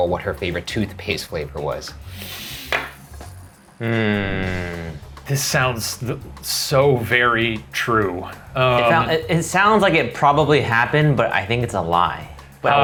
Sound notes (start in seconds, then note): 2.0 inhales deeply; 3.8 humming